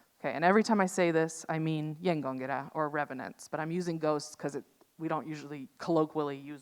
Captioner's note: speaks in Norwegian